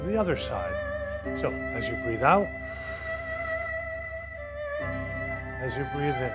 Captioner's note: exhales slowly